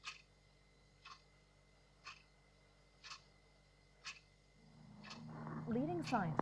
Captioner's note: silence; clock ticking